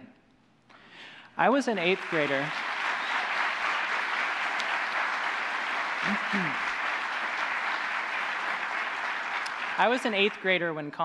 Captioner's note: applause